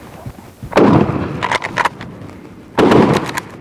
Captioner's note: guns roaring